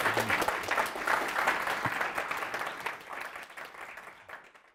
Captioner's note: applause